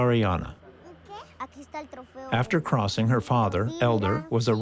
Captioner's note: children speaking Spanish